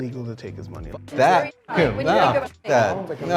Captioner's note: beep